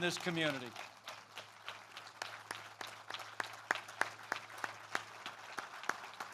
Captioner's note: applause